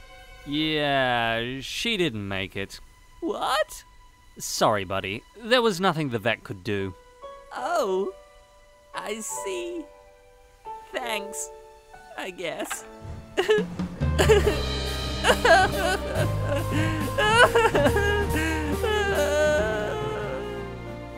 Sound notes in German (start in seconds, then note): 13.2 schluchzt; 15.2 weint